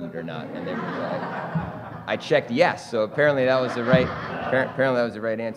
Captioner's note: laughter